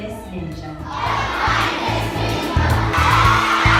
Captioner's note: children In Unison; children cheering